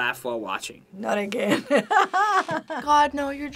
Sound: laughing

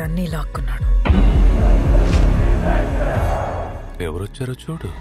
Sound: chanting

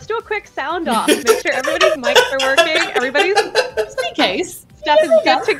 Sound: laughter

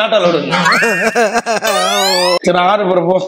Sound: sobs

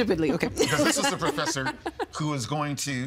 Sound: laughing

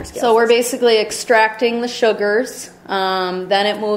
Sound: voiceover

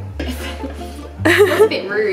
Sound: laughs

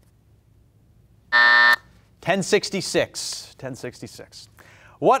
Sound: buzzer buzzes

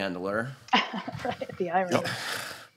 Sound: laughs

